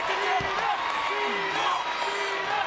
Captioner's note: audience cheering